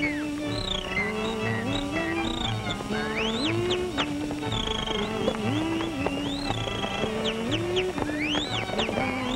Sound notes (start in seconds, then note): 3.5 whistling